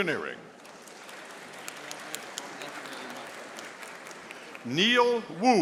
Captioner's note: audience applauding